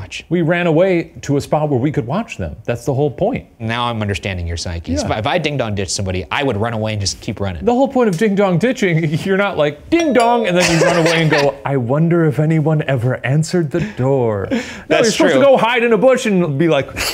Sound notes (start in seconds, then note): 10.0 doorbell rings; 10.5 laughs